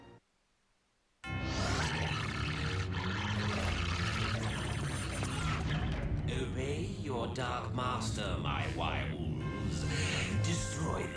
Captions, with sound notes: [GROWLING] OBEY YOUR DARK MASTER, MY WIREWOLVES.